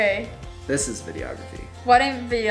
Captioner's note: male Voice